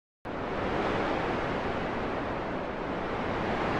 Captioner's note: wind and waves